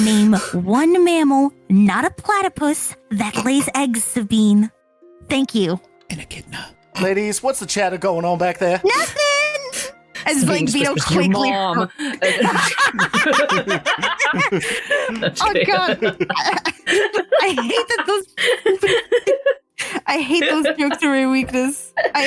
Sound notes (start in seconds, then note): 15.5 laughter